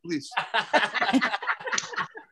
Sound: laughter

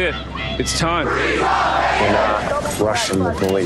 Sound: protestors chanting

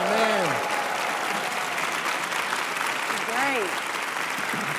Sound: cheering

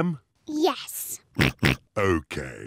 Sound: oinks

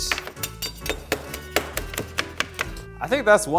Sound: tools thudding

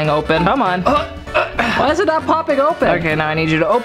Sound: grunts

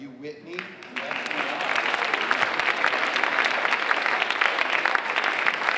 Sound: audience applauding

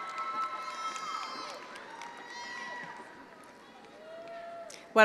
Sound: attendees applauding

